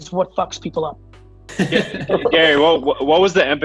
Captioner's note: laughs